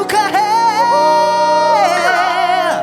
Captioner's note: shrieks